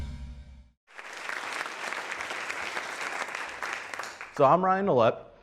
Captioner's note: applause